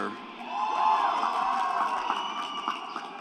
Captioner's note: applause